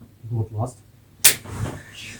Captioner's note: slap